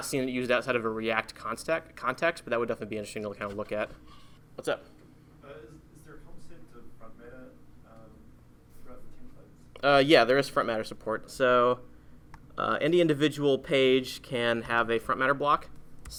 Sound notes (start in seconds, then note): 5.7 voiceover